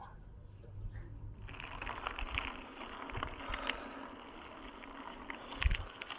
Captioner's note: road noise